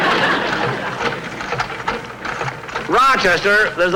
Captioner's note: apparatus Creaking